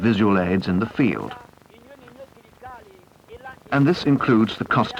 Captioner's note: indiscriminate chatter